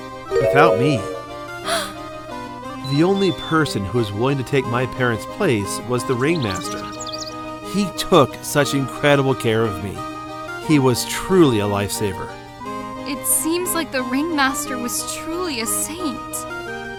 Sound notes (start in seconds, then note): 1.6 gasp!